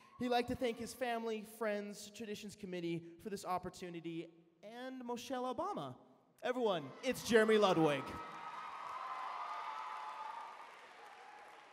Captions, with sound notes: He like to thank his family, friends, traditions committee, for this opportunity and Michelle Obama. Everyone, it's Jeremy Ludwig. [CHEERING]